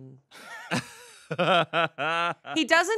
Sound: laughing

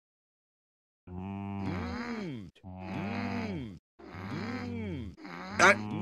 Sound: several "Mmm!" from other characters

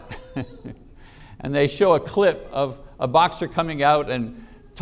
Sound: chuckling

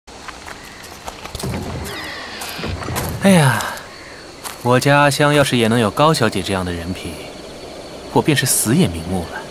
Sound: sigh

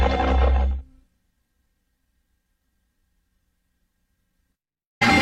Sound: digital synth music plays; VHS static

